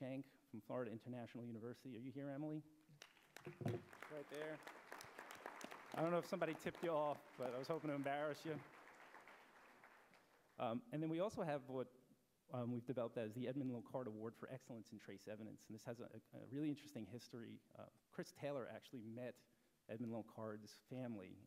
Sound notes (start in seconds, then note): 3.0 applause